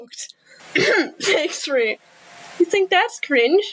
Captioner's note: coughs